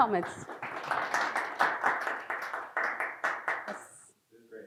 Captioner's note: attendees applaud